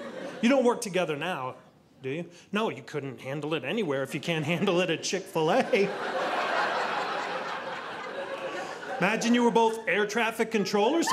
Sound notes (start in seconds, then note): 5.5 audience laughing